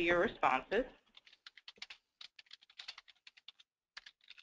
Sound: typing

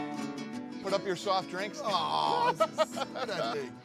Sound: laughs

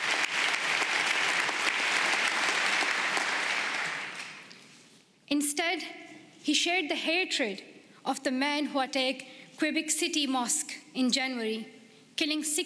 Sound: applause

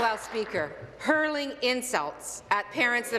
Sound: applause

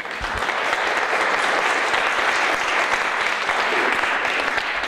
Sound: audience applauds

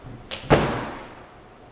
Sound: thud

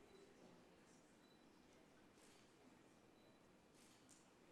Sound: camera clicking

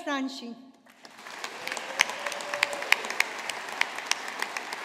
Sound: audience applauding

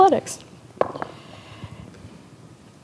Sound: dice rolling

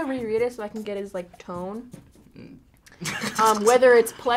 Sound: laughs

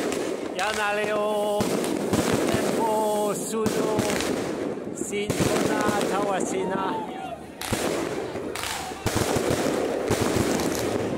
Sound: in many different languages

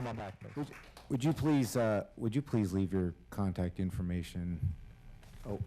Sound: applause

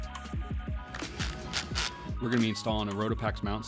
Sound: driller grinding

